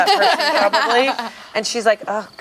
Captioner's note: group laughs